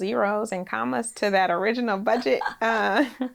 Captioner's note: laughs; laughing